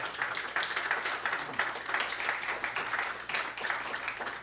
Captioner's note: audience applause